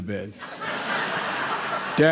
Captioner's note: laughter